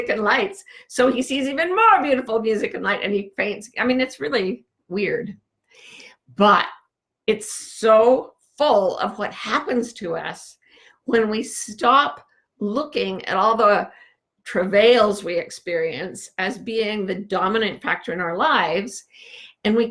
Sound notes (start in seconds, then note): none